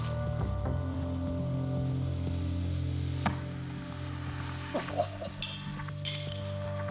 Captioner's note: sizzling; Pogue guffaws